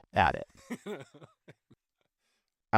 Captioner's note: laughing